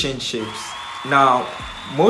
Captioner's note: cheering